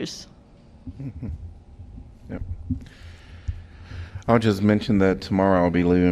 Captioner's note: laughter